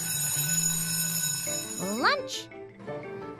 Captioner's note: school bell rings